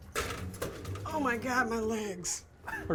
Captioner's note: tray rumbles